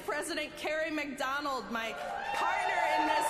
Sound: applause

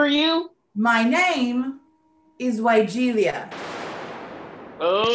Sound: thunder clap

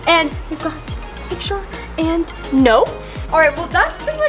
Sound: none

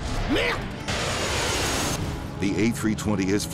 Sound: pilot speaking foreign language

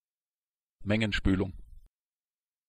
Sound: fast Pronunciation

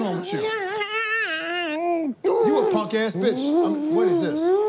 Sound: yelling

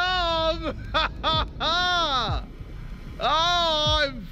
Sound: JJ laughs

